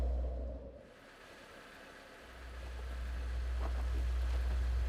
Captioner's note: steam hissing